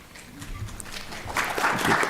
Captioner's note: applause